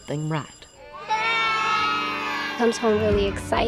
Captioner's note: laughing